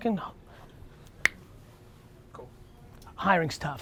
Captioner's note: snaps fingers